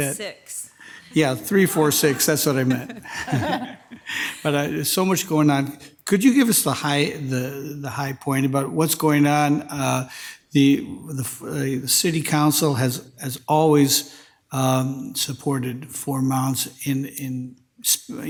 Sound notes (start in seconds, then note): 3.2 all laughing